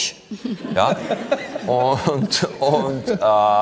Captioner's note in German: Lachen